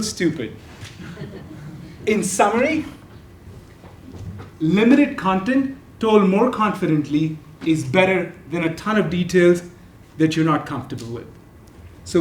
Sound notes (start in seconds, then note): 0.9 laugh